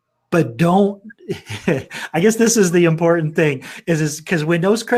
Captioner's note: laughs